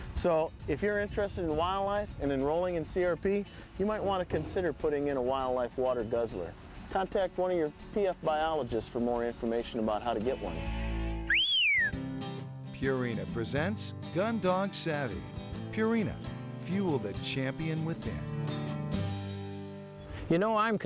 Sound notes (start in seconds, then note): 11.2 whistle